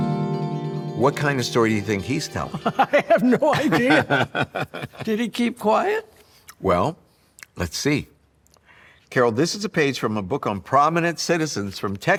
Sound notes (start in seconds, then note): 2.5 laughing; 2.5 laughs